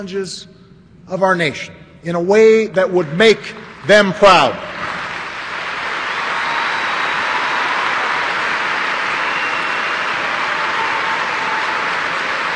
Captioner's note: applause